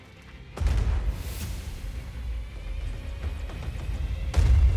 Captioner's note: bomb exploding; bombs exploding